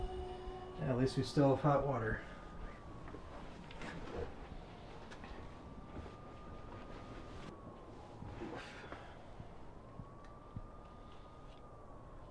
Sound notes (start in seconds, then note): 2.6 siren wailing